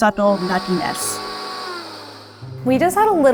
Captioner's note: blender whirring